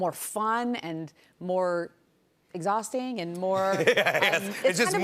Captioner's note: laughter